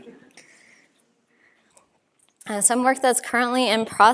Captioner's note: laughter